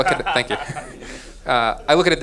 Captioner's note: laughing